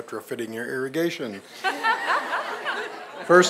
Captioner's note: laughter